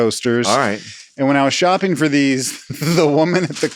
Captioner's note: laughs